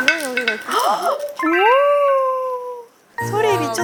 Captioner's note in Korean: 바사삭 바사삭